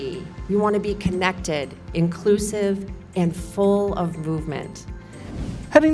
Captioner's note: swoosh SFX